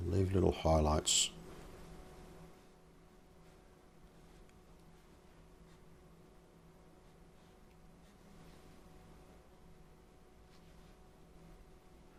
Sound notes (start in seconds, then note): 1.3 silence